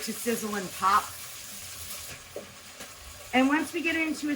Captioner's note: meat sizzling